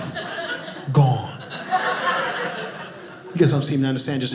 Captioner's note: audience laughing